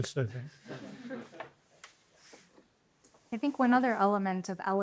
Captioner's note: laughter